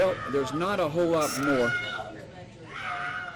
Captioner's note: screaming